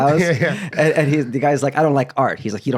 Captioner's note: laughs